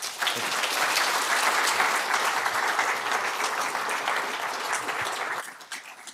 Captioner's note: applause